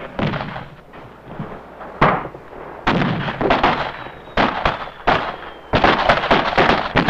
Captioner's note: explosions booming; guns blasting